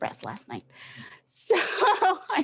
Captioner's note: laughs